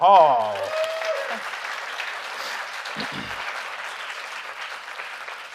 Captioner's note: audience applauding